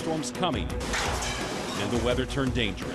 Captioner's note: objects clattering